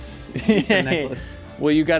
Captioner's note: laughing